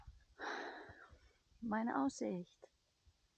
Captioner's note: sighing